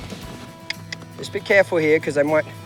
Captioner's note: clicking